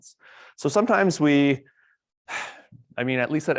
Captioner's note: sighs